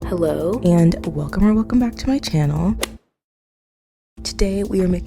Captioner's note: golf hit sound effect